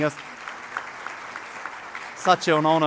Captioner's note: audience applauding